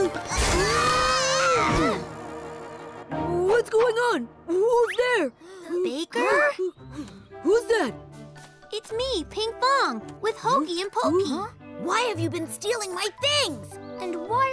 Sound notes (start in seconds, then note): 0.2 all screaming; 6.7 gasps